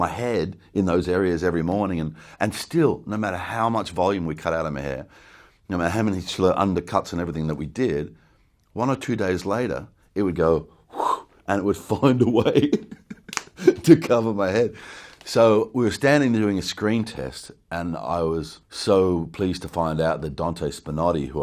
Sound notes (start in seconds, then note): 10.7 whooshes air; 12.0 laughs